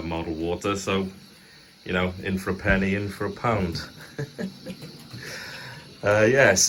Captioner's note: giggles nervously